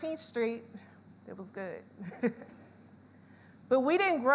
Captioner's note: laughs